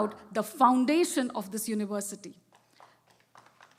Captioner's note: applause